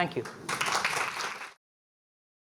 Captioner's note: applause